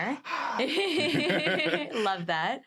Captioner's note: sighs; laughs